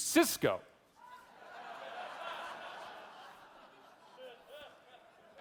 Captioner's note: audience laughing